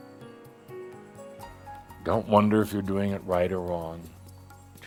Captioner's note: none